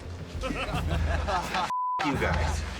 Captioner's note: laughter